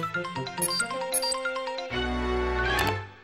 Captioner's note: none